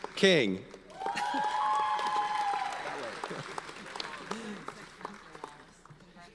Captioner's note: audience cheers and applauds